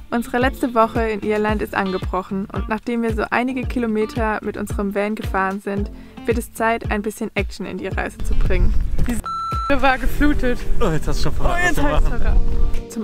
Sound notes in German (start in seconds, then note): 9.2 piep